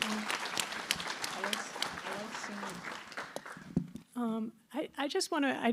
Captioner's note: applause